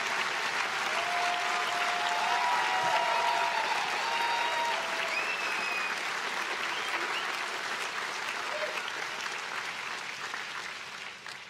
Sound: applause

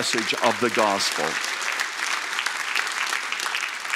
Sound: applause

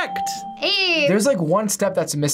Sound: bell rings

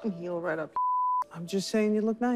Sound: beeps

